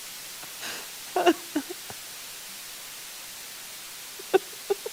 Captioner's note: laughter